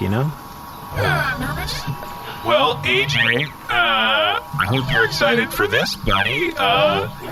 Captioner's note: sighs